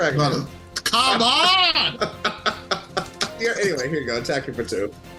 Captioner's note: laughs